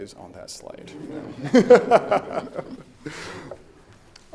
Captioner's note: laughing